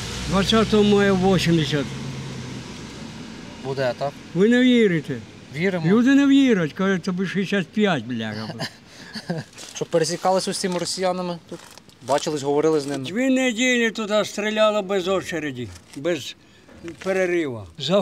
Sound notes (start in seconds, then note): 8.2 laughs